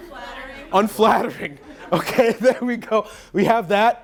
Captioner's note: laughing